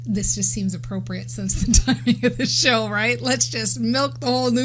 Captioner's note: laughs